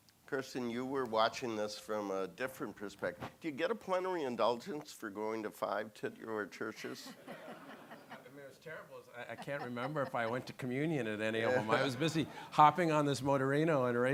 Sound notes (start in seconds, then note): 6.8 audience laughing